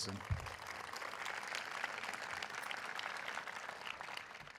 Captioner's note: audience applauding